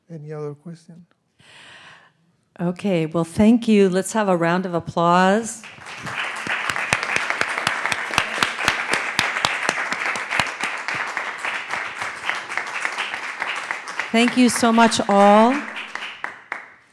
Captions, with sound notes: Any other questions? - Okay, well thank you, let's have a round of applause. (audience applauding) Thank you so much, all.